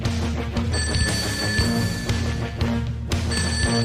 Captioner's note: ring~~~~ Ring~~~~~~